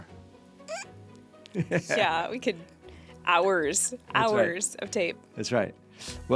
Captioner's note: squeaking